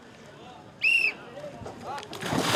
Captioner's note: whistle Blow